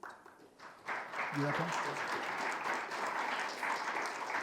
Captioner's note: audience applauding